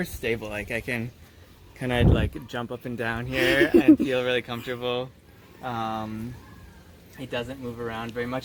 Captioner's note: laughter